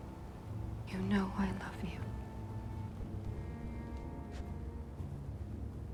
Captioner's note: none